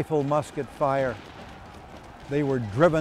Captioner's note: shells explode